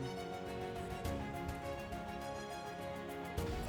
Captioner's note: speaking in German